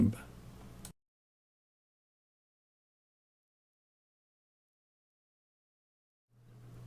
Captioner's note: silence